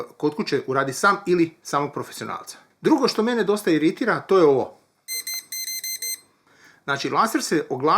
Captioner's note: beeping